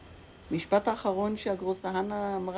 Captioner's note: in Hebrew